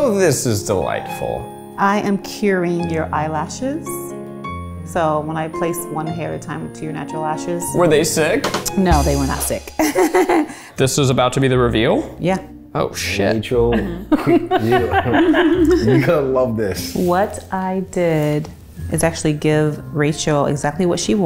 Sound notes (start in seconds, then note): 9.8 laughs; 15.4 laughs